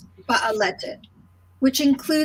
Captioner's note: speaking in foreign language